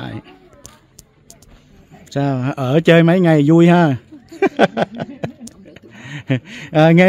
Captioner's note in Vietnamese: Tiếng cười